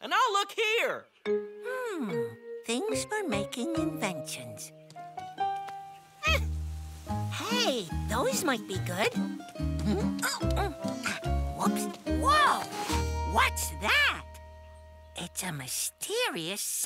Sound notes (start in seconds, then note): 6.2 grunt of effort; 9.8 running grunts